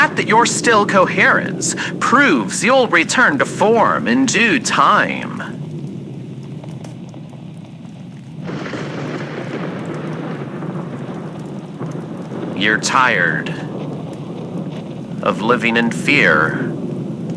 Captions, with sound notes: The fact that you're still coherent proves you'll return to form in due time. (thunderclap fx) You're tired... of living in fear,